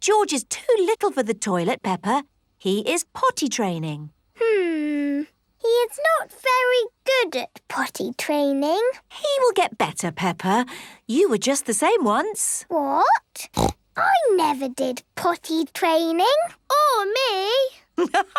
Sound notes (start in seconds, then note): 13.5 snorts